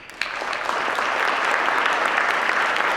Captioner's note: applause; laugh